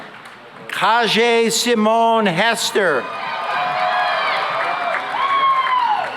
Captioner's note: cheering and applause